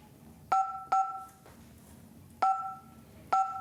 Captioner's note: beeps